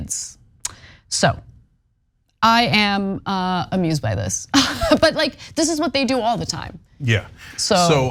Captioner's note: laugh